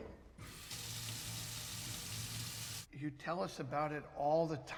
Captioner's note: water running